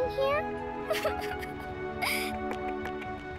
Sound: sobbing

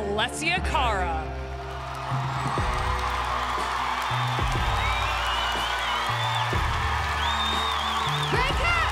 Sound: audience applause

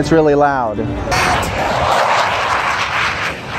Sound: jet swooshing

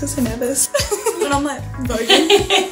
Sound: laughs

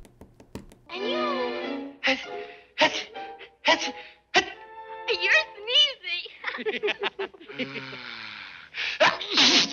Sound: laughter

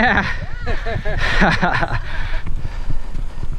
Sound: laughs

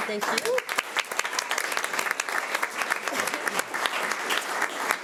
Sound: audience applauding

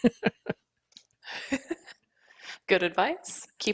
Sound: laughs

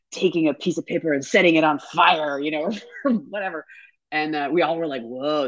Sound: laughs

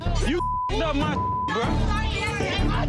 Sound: beep

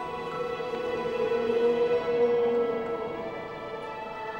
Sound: eerie howling

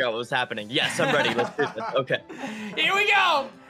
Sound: chuckles

